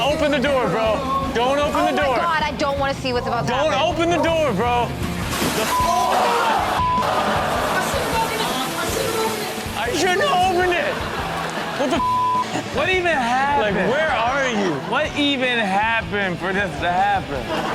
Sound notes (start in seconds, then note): 5.6 beep; 5.6 audience gasps; 9.9 audience laughs; 12.0 beep